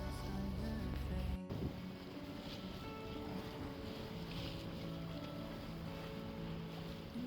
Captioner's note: water splashing